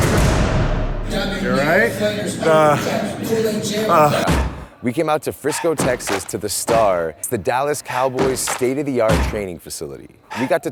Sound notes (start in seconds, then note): 3.7 grunts